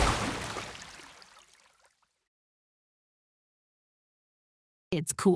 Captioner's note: silence